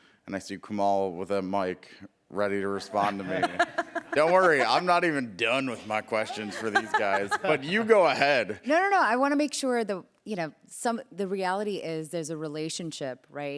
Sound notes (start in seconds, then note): 2.8 laughter